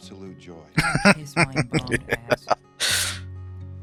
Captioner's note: laughing